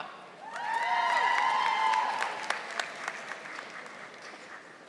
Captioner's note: audience applauding